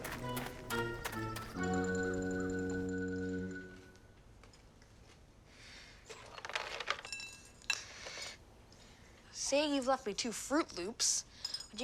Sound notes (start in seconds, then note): 0.0 soft whimsical music; 6.7 cereal clanking